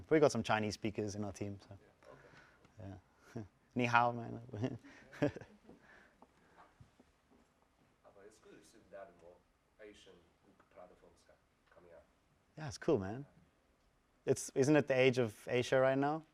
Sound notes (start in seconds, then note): 4.4 laugh